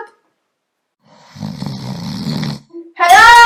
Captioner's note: snoring